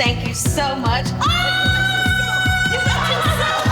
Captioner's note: yells